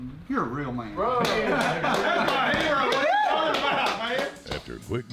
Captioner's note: clapping and cheering